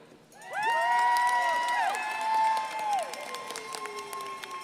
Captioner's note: crowd applauding